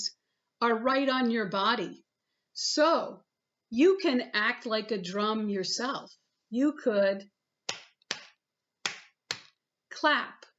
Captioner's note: clap clap/ clap clap